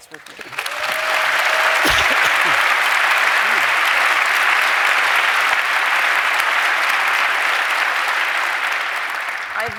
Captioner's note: applause